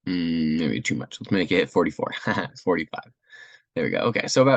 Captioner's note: laugh